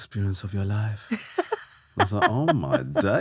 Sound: laughing

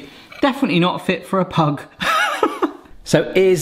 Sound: laughs

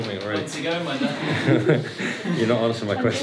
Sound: muffled chatter

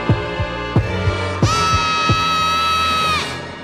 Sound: heartbeat thudding

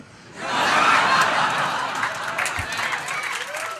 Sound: audience laughter

